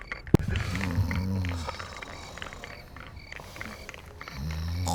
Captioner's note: snoring